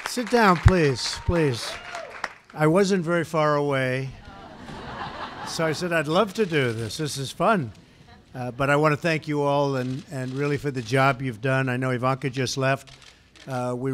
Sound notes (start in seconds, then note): 4.2 laughter